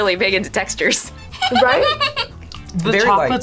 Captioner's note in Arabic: يضحك الملاك